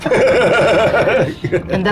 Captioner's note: laughs